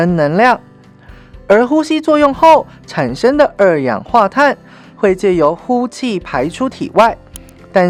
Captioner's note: breathing out